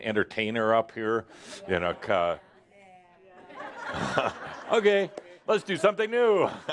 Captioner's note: some in audience say “Yeah” and some laughter